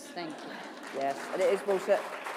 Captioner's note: applause